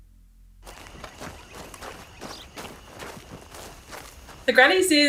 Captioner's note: footsteps crunching dirt